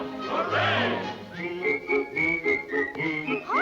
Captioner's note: whistling